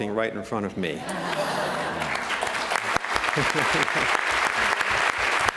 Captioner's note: applause